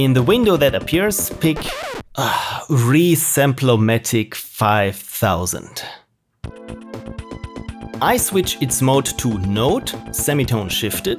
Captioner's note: sigh